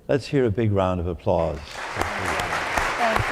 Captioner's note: applause